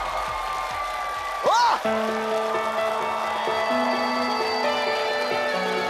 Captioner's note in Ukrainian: оплески